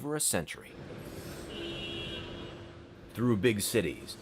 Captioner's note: car horn & city noise